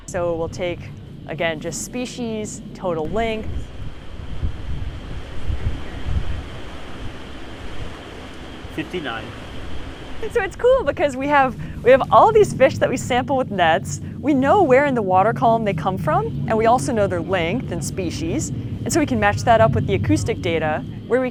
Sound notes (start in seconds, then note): 3.0 water splashing; 4.5 wind blowing